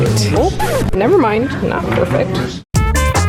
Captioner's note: record scratching